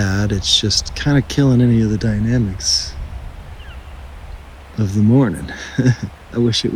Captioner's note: laugh